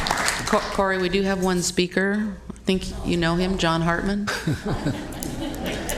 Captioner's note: applause